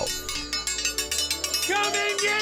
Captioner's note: metal ringing